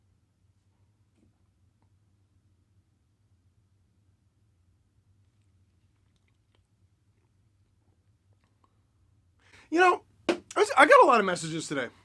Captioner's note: beer sip